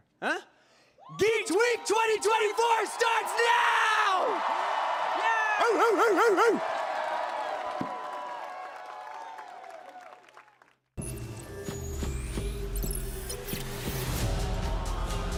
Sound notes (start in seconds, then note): 4.1 applause